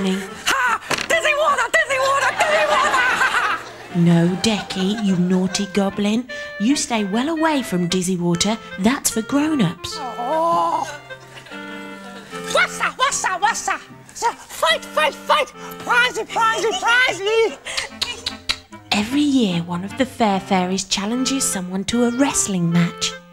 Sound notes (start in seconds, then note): 10.0 Dec sighs in frustration